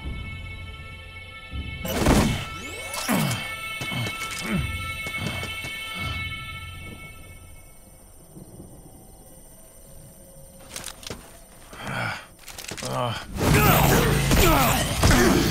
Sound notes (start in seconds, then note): 1.6 thudding, grunting; 12.8 grunting